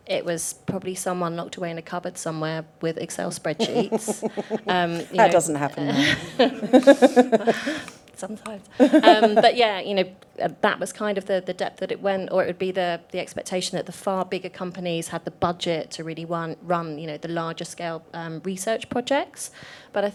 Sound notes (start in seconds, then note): 6.3 laughs